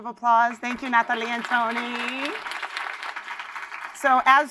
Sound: applause

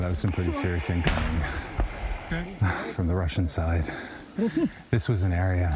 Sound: explosion

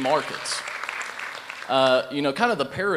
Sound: applause

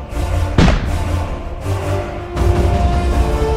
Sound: theatrical chanting; booming

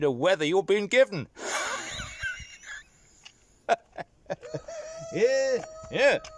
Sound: laughs

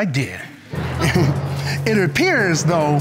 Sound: scattered laughter

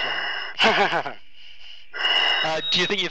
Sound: chuckling

